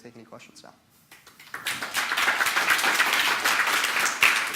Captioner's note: applause